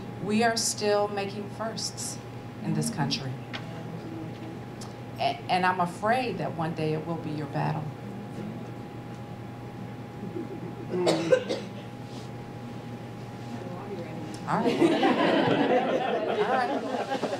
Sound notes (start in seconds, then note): 10.8 cough; 14.6 laugh